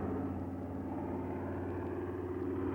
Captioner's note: plane motor